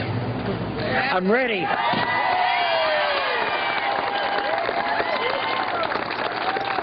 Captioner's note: applause